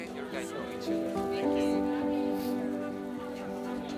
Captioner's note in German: undeutliches Gerede